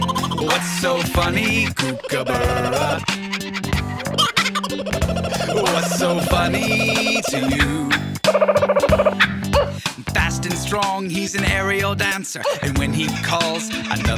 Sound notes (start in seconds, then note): 4.6 bird singing